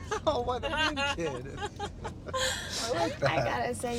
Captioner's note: Alex and Cassidy laughing